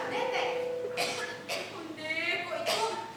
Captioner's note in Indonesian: Batuk